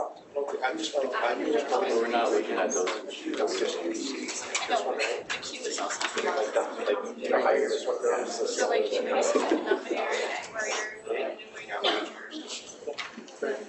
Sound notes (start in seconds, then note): 0.5 chatting